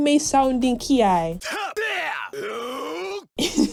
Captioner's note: combination of uttered shouts; laughs